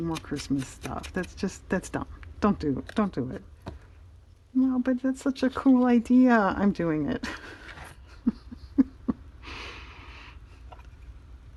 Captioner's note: laughs